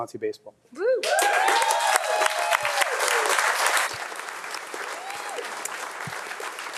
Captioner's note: attendees clapping